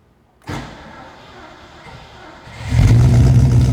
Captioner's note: engine ignites